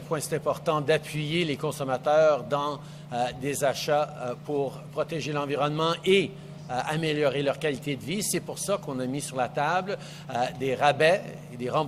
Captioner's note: speaks French